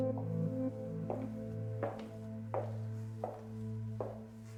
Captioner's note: shoes clicking